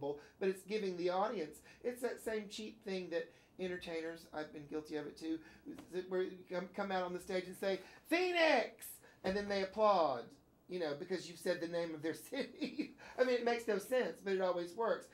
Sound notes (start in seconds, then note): 12.6 laughs